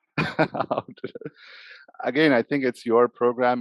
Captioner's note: laughs